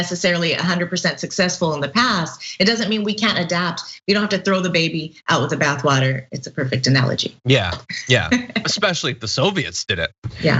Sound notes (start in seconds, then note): 7.8 laugh